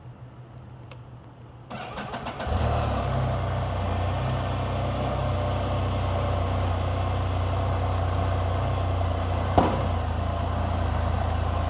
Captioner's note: Can-Am Spyder starting, engine sound